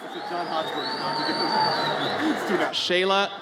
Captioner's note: audience cheers